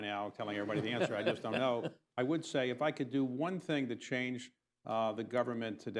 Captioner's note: laughter